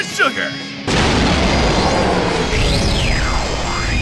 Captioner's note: sonic boom